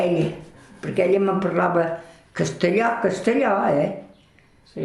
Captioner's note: Spanish